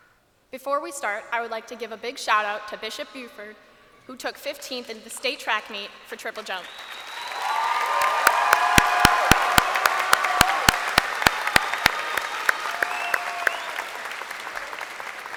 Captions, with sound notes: Before we start, I would like to give a big shout out to Bishop Bufford who took 15th at the state track meet for triple jump. (crowd applauding and cheering)